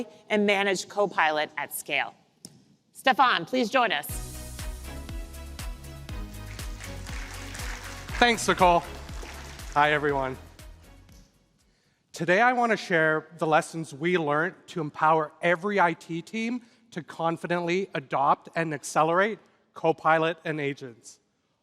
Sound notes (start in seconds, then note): 4.2 applause